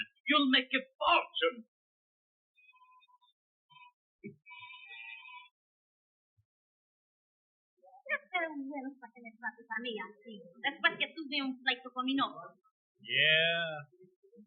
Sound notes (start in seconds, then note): 2.5 buzzer sounding; 8.0 speaking Spanish